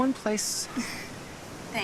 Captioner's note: chuckles